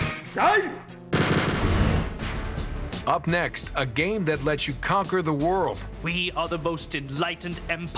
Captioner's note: shouts